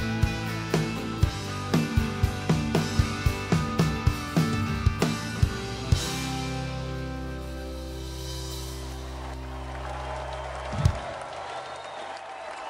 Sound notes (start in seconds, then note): 8.6 audience cheers and applauds